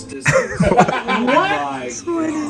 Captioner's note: everyone laughing